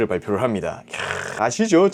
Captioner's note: sighing